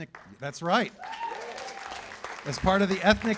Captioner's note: cheers and applause